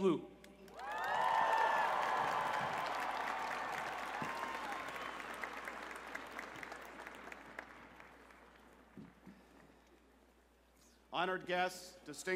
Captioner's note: cheers and applause